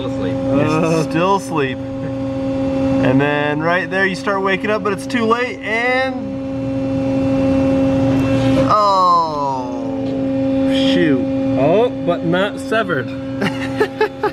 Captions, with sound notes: - Still asleep. - Still asleep, and then right there you start waking up but it's too late and... (buzzing) Oh, shoot! - Oh, but not severed.